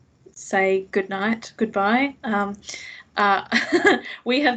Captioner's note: laughs